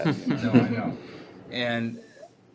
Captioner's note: laughter